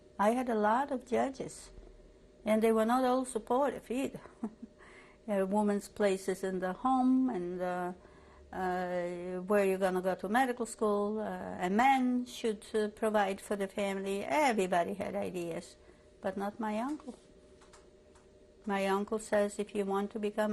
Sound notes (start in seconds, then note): 4.2 laughs